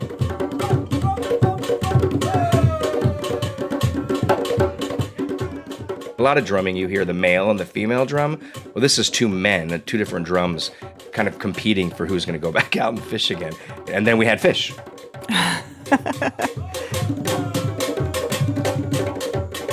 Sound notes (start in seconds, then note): 0.2 traditional drumming music; 15.2 laughs; 15.9 traditional drumming music